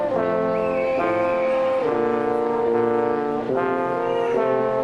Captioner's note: person whistling